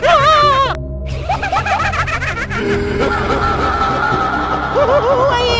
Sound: laughter; screaming

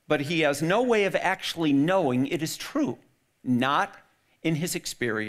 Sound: none

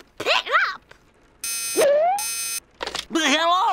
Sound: phone buzzing

